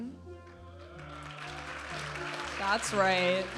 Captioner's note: audience applauding and cheering